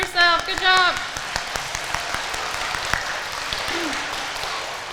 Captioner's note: audience applauding